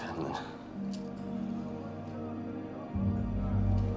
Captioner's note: indistinct chatter